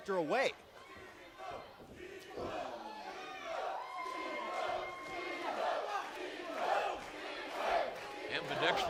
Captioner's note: crowd cheering